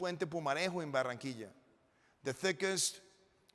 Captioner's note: speaking in foreign language